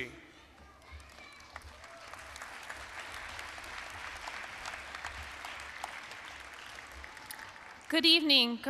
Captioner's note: applause